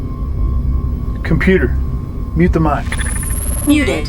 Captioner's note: static buzzing